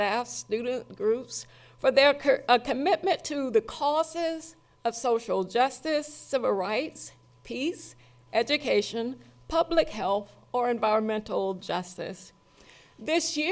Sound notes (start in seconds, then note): none